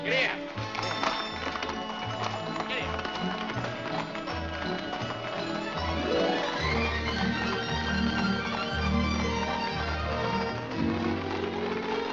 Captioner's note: hooves trotting